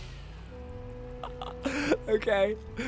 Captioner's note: laughs